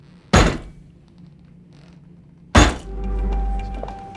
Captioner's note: feet thudding; suspenseful music